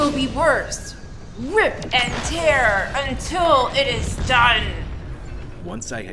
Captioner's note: crash